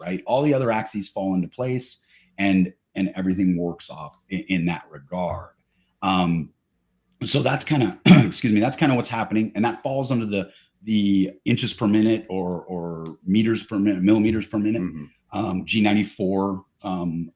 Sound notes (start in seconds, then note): 7.7 coughs